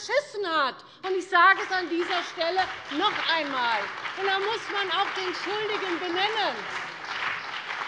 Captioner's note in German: Beifall CDU und BÜNDNIS 90/DIE GRÜNEN